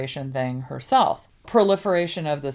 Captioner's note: none